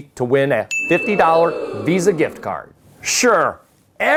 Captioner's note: audience exclaiming